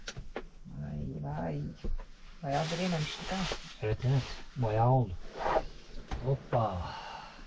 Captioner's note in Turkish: homurdanır